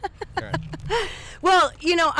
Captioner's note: chuckles